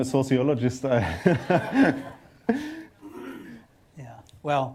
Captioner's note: laughter